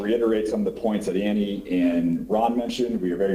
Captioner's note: ~distortion~